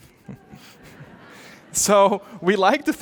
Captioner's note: audience laughing